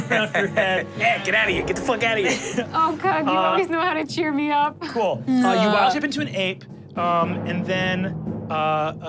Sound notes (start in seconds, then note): 0.0 laughing